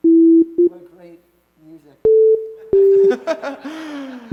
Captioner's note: laughter